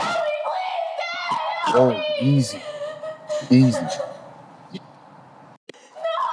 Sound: Alli weeping

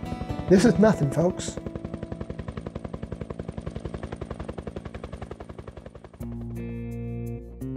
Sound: sounds of Helicopter

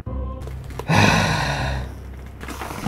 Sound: big sigh

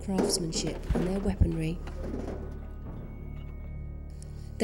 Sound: rattling of boulders in wheelbarrow

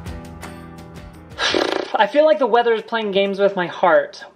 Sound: sighs

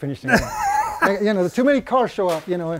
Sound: laughs

